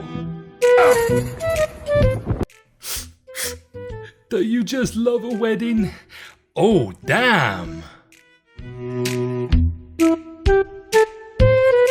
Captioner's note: sniffle